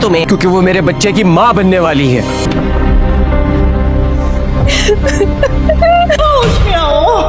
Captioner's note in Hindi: हंसी